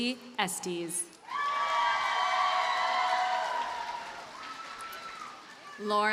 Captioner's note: audience cheers and applauds